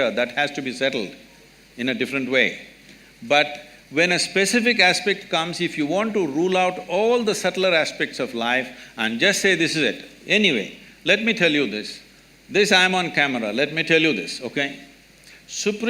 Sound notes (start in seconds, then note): none